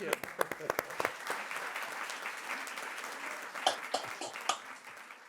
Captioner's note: audience applauds